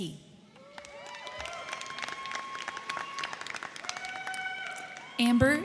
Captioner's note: crowd clapping; crowd cheering